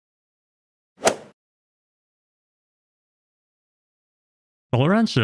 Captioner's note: golf ball hit sound effect